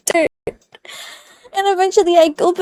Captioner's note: exhale